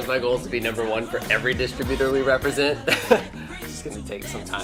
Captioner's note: laughs